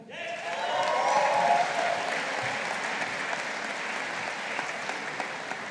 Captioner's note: audience applauding